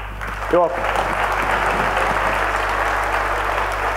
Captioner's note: applause